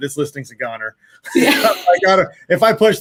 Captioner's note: all laugh